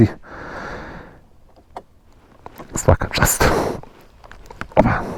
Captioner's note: sigh